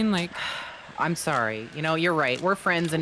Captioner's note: sighs